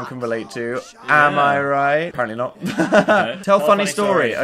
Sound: laughing

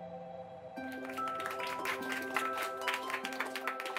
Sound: classroom claps; gentle music

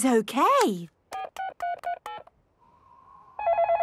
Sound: dial tones beeping; phone ringing

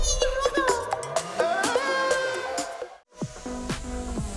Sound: screams

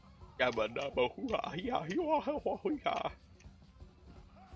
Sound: stupid dumbass idiot noises

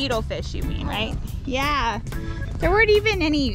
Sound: bell ringing

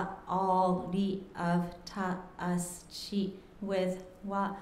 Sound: speaking japanese

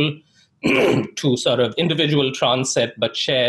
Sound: clears throat

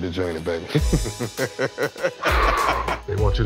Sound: laughs

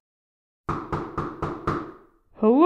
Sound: knock! Knock! Knock!

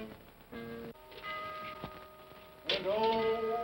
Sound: whimsical ominous music; clock chimes

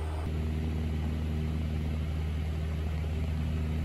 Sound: engine noise

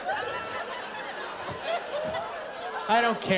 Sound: laughter

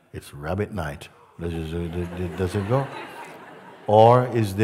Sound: laughter

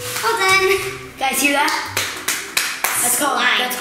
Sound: slaps

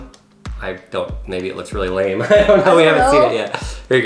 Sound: laughs

